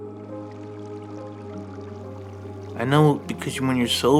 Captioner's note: soft solemn music; water burbling